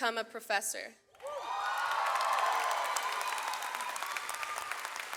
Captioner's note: audience applauds